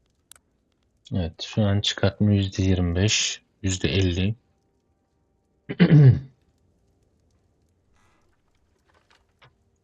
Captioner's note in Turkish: boğazını temizler